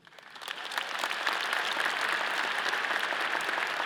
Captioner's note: all applauding